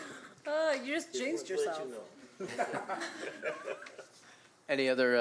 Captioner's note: laughter